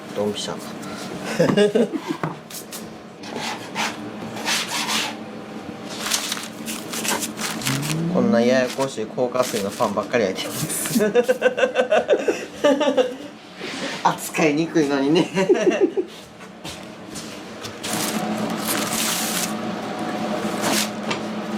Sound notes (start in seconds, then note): 10.8 laugh; 15.2 laugh